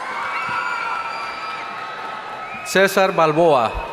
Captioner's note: audience cheering